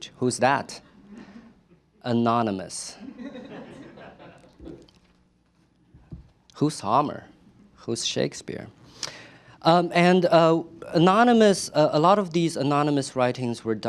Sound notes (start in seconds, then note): 3.0 laughter